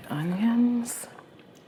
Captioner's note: sizzling noise